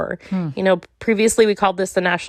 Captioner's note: none